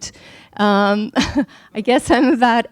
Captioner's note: laughing